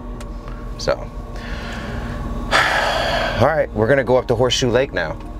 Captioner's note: sighs